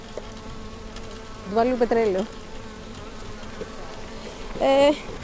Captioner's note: speaking greek